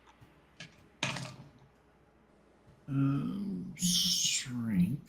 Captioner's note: dice rolling